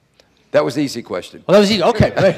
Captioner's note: laughs